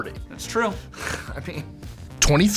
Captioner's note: snorting